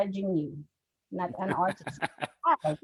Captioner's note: laughs